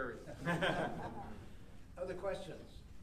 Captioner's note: laughing